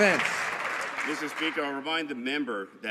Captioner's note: some Applause